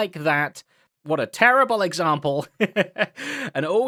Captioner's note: laughs